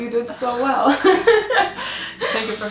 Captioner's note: both laughing